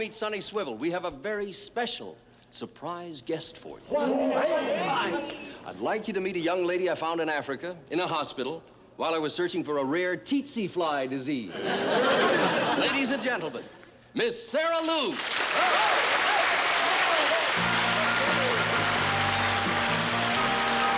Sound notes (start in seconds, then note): 3.3 audience gasps; 11.5 laughter; 15.2 cheering; 17.5 slow music